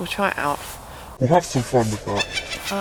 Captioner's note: devil voice; witch laugh